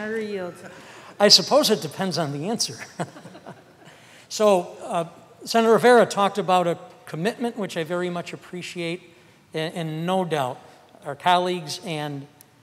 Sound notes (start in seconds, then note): 2.8 laughter